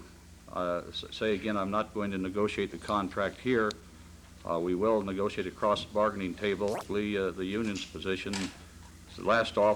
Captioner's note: camera noise